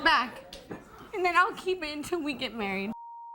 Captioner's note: laughing; beep